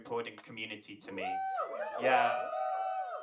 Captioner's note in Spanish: público ovacionando